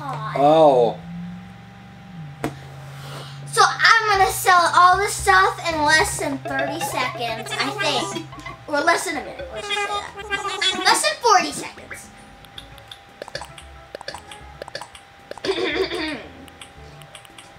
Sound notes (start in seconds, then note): 12.3 buttons noises; 15.5 clears throat